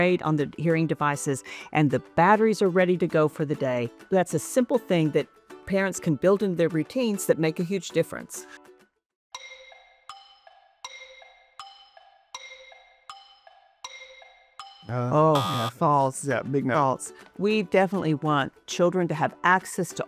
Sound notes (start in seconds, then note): 9.4 soft music; 15.3 buzzer buzzes